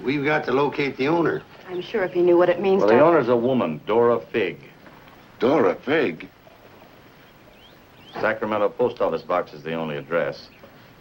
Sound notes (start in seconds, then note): none